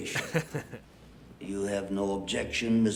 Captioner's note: laughs